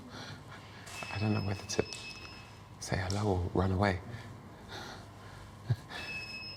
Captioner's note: laughing